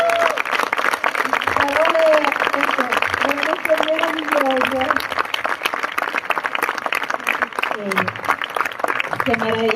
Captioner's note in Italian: Applausi